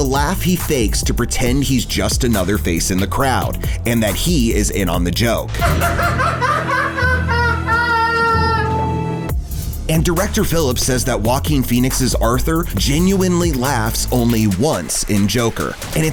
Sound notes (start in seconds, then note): 5.5 laughter